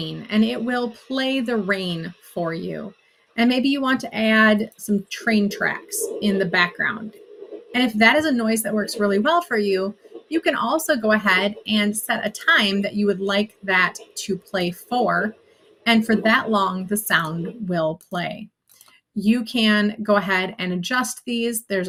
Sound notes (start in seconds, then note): 0.3 rain patters; 6.1 train clickety-clacks